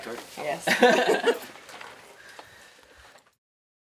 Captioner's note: chuckling